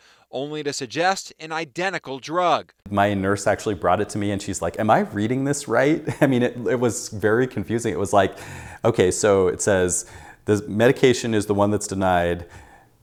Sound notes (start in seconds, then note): 5.8 chuckles